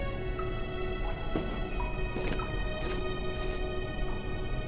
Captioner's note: mysterious music continues; feet patter